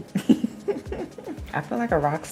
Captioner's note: laughs